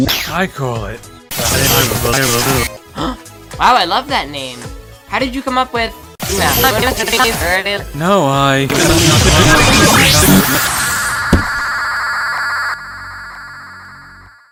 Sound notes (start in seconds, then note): 2.9 gasps; 6.8 imitates glitch